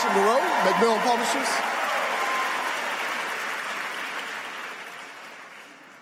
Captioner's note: applause